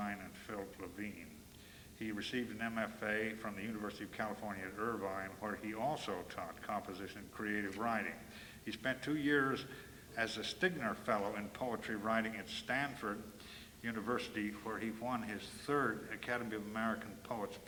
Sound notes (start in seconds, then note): none